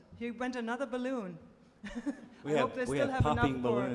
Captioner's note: laughs